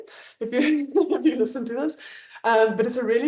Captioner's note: laughs